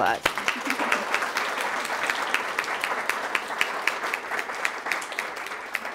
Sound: applause

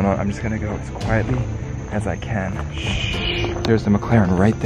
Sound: shushes

